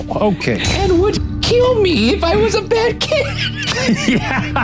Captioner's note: laughs